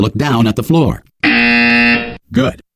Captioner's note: buzzer